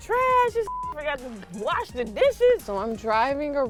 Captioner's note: beep